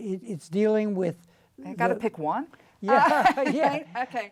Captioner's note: laughs